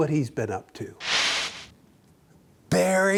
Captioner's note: air whooshes